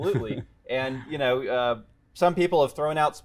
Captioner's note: laughter